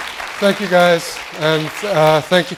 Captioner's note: laughter